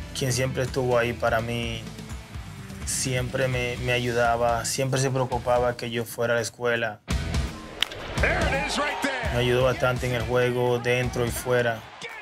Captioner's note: spanish